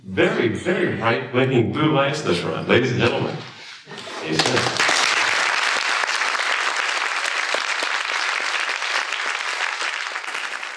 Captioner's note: applause